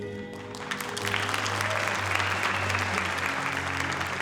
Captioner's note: audience applauding